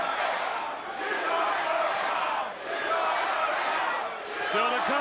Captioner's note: crowd cheering